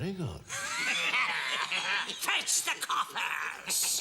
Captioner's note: devils laughing